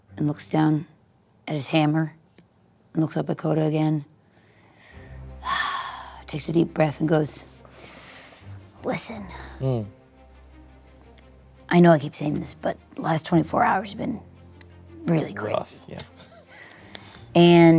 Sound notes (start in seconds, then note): 5.4 sighs; 15.8 laughs